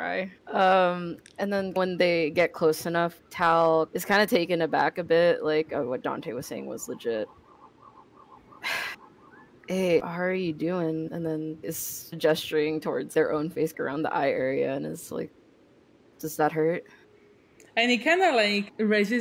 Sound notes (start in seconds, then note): 8.9 sigh